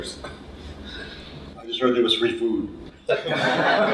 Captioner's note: laughter